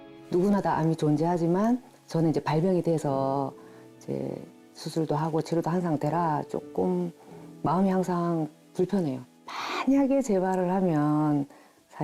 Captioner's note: voiceover